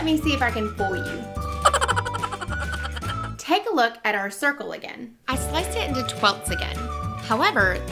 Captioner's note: evil Raccoon Laugh